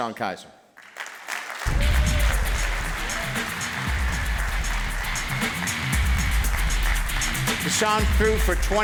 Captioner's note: applause